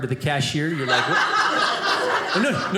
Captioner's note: audience laughing